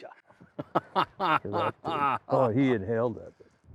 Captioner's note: laughs